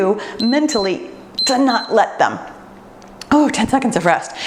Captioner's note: timer beeps